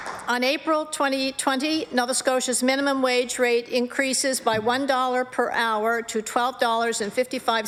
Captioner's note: applause